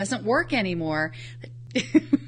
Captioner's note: laughs